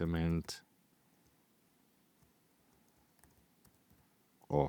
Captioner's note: keyboard clicking